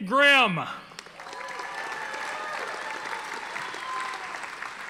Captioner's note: audience applauding